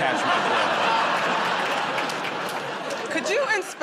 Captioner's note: laughter